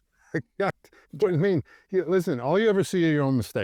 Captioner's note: laughs